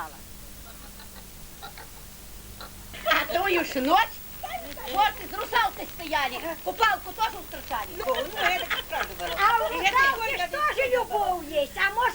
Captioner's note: laughing